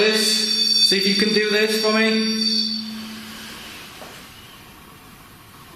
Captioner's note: device squealing